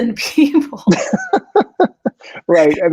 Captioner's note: laughing